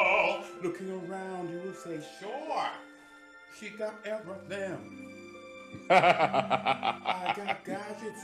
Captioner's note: laughter